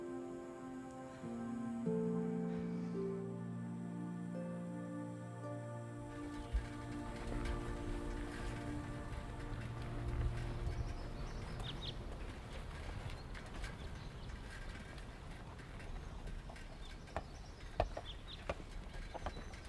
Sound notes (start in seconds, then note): 0.1 gentle music; 11.1 birds chirping